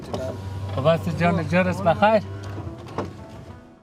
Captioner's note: driver greets in Farsi